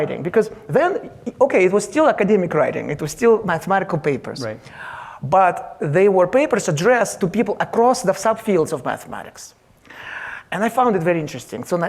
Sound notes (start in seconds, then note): none